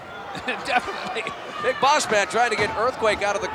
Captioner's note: laugh